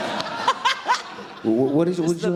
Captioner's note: audience laughter